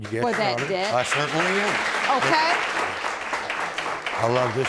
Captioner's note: audience applauding